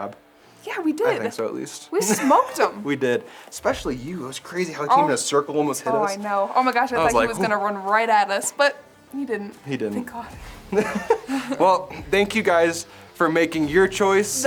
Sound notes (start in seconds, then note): 2.0 laughs